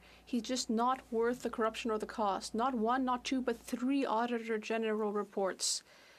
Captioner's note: speaking French